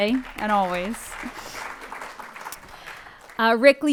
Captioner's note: audience applauds